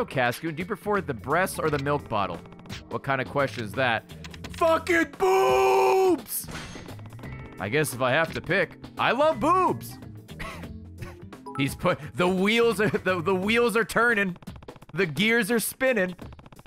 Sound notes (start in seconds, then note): 10.9 laughs